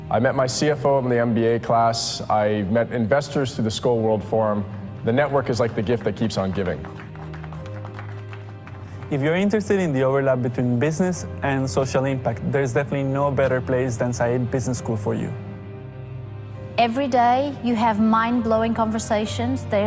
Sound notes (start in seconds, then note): 7.3 audience clapping